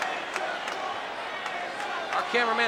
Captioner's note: crowd cheering